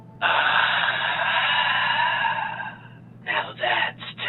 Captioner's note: exhaling sharply